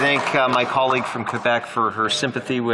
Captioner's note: applause